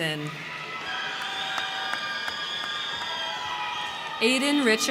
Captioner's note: crowd cheering; crowd clapping